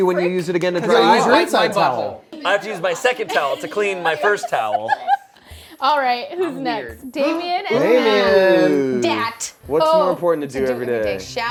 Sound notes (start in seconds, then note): 5.4 laughs